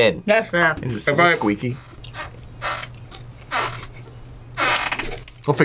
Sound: chair squeaks

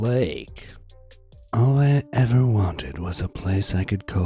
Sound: in a calm, sentimental voice

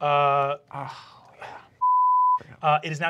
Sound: beep

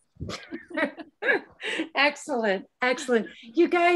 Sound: laughs

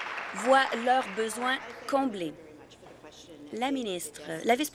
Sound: applause

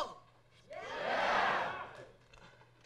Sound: crowd

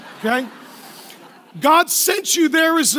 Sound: laughing

